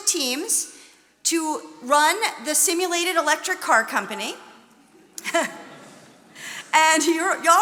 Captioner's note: chuckles